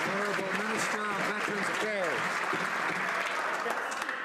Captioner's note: some Applause